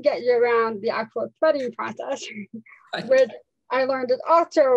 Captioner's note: laughs